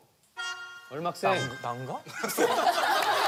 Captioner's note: laughs